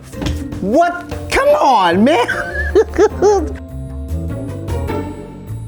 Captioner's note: laughs